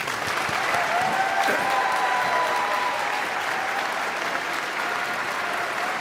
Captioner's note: all clapping; audience cheering